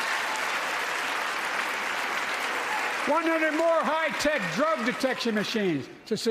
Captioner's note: applause